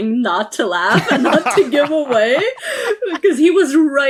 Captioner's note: others laughing